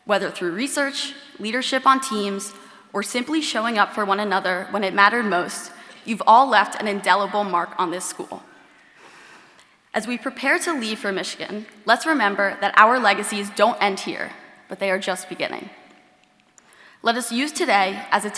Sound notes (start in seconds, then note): none